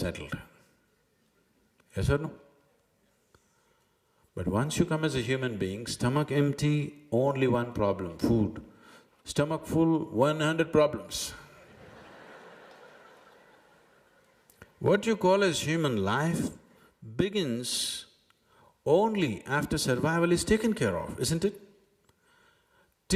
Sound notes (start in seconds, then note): 11.5 laughter; 11.5 笑聲